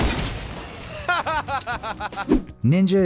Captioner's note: man laughing loudly